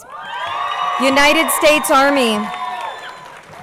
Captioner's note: crowd cheering